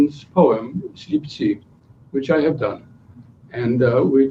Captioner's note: non-english speech